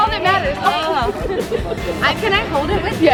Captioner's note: laughing